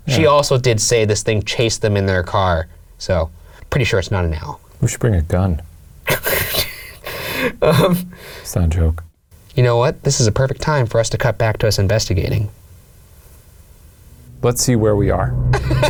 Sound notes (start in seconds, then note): 6.4 laughs